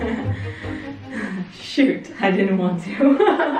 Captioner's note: laughing